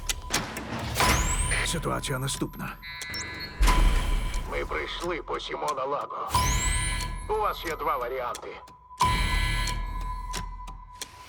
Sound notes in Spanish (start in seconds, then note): 2.7 pitido; 8.8 música de tensión